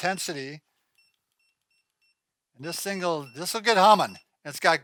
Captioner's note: electronic beeping